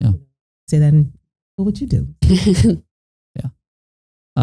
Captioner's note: laughing